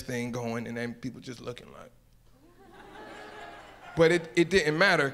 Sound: audience laughs

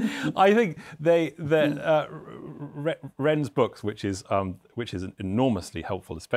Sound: laughs

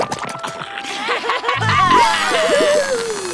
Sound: laughing

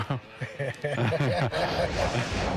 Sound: both laugh

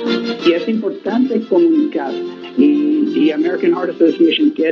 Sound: speaking in foreign language

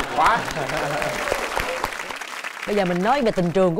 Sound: applause

